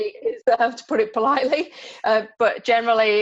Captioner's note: laughs